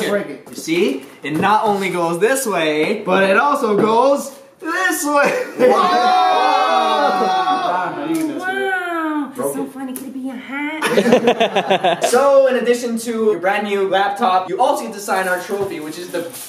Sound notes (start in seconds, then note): 10.8 laughter